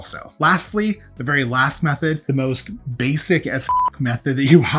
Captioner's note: beep